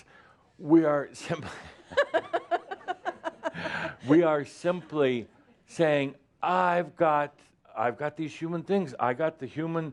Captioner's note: they both laugh